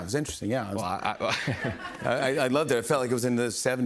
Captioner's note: laughs